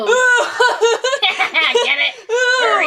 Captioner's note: laughs